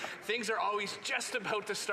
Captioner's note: some Applause